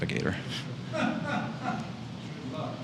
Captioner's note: laughs